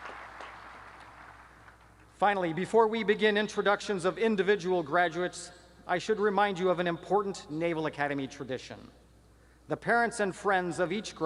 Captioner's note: applause